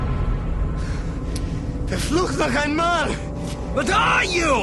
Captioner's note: Говорейки на немски